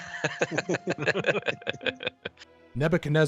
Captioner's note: all laughing